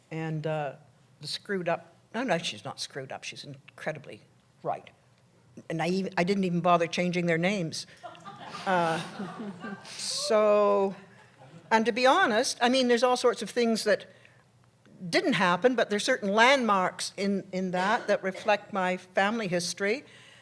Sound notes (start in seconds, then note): 8.0 laughter